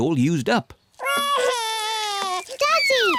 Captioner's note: wails